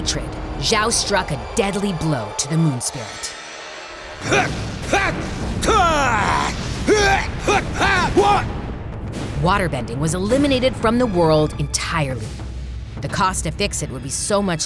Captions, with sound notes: Zhao struck a deadly blow to the Moon Spirit. [grunting] Waterbending was eliminated from the world entirely. The cost to fix it would be so much larger